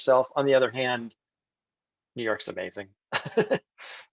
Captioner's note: laughs